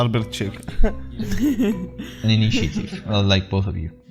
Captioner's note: chuckles